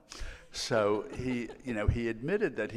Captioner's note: laughing